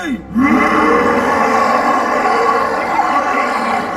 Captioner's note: grunting